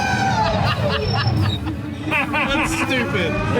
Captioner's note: both laugh